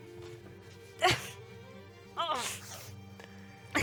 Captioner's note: gasping cry